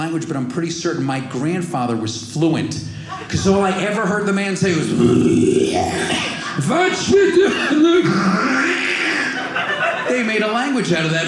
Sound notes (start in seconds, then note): 5.0 clears throat